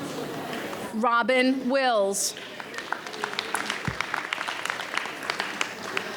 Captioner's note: audience applauds